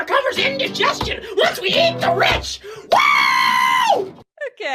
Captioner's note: singer screams